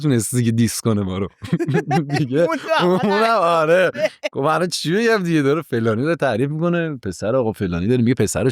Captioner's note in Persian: خنده